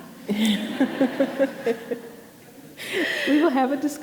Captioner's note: audience laughing